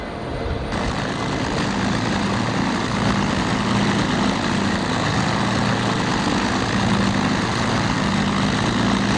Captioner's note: propellers whirring